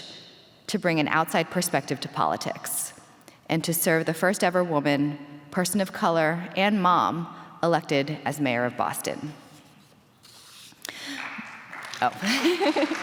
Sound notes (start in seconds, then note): 10.9 applause; 12.4 laughs